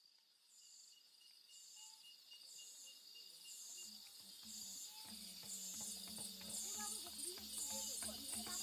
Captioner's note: insect And Frog Sounds